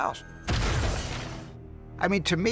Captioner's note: crashing